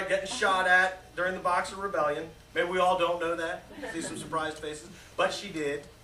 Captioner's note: laughter